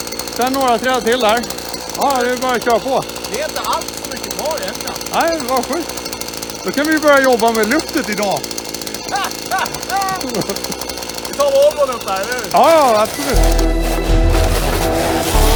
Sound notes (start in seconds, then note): 8.8 laughs